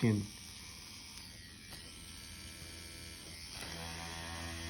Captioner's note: machine whirring